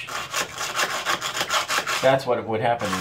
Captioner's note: wedge scraping